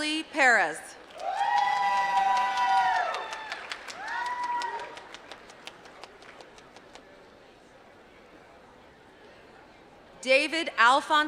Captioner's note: applause